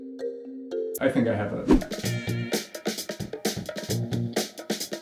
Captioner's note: soft chiming music; swoosh